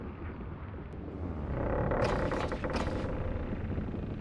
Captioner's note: sounds of ship rocking